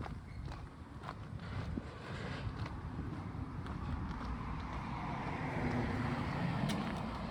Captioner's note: traffic noise